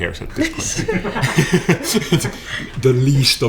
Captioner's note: laughter